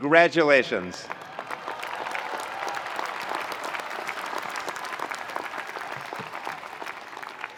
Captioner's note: attendees cheering; attendees applauding